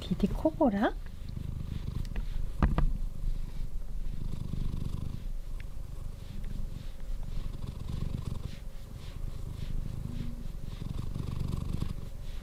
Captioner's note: DD purring ASMR